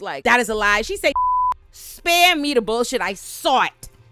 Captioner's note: beep